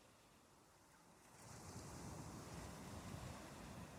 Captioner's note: waves rolling